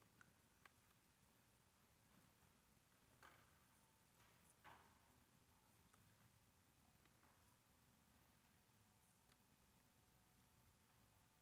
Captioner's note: whispers